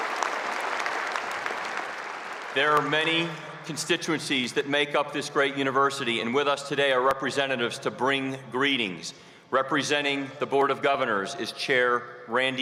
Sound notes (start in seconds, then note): 0.0 cheers and applause